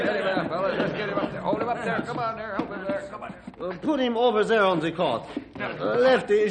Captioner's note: crowd chattering